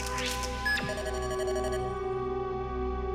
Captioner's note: beeps